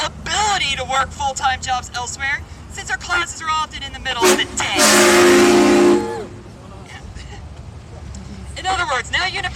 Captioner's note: truck horn blows